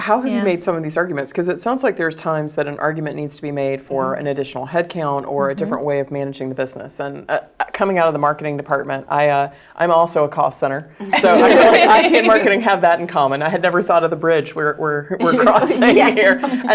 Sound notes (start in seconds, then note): 11.1 laugh